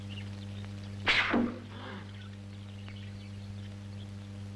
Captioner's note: men gasping